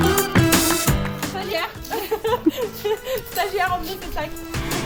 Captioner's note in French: rires